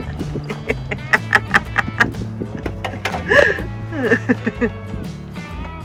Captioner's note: laughter